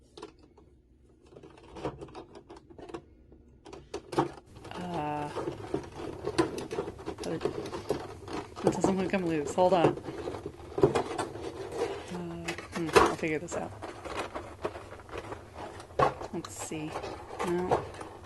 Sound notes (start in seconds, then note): 0.1 crackles as I fail to understand packing; 5.3 more determined plastic crackling